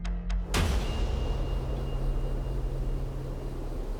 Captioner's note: gun fires